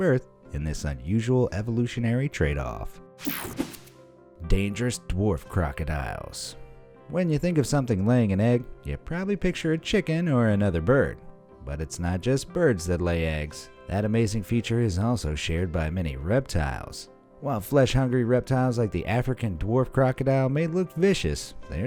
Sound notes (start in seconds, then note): 3.3 air whooshing